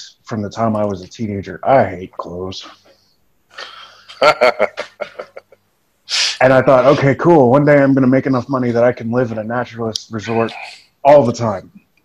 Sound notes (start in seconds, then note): 3.6 laughs